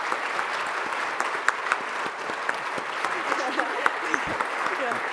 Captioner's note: audience applauds